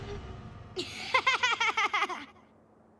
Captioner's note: laughing